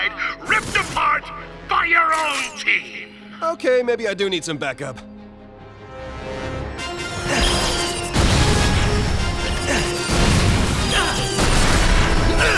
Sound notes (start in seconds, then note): 7.5 wincing; 8.5 explosions